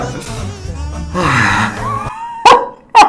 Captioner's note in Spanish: suspiro; risas